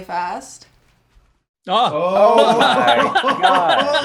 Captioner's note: laughing